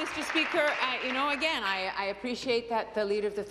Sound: applause

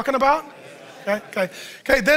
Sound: congregation assenting

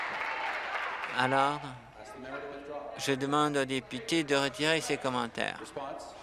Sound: applause

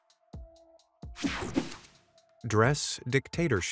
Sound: screen whooshing

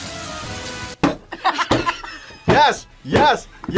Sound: laughs

